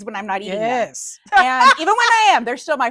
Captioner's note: laughs